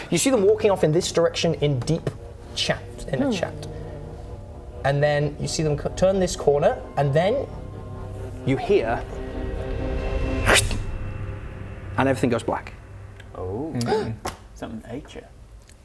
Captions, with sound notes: you see them walking off in this direction in deep chat, in a chat and then you see them turn this corner and then you hear *krrushh* and everything goes black ooh *gasp* something ate ya